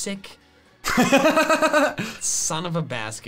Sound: laughing

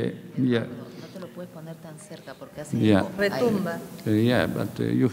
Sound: speaking in a foreign language

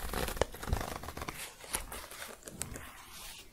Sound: zipper closing

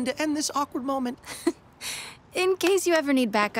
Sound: Ghost Spider chuckles

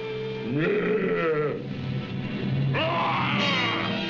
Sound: speaking in a foreign language; growling; yelling

